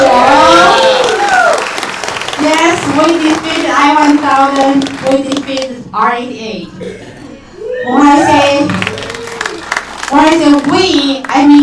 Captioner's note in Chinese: 掌声